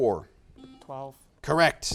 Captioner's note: buzzer beeps